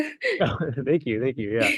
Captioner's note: laughter